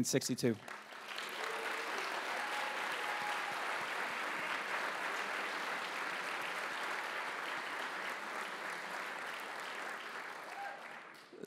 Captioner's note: applause